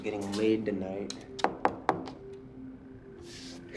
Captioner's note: knocks